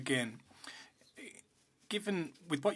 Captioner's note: speaking French